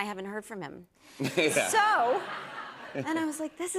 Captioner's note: laughter